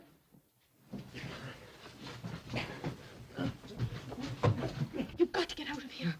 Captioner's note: sounds of struggling